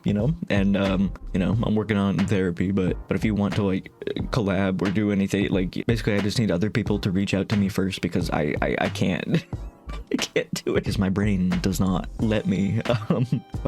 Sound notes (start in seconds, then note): 9.3 laughing